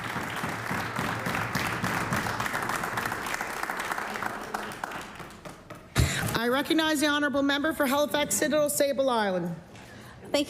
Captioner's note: applause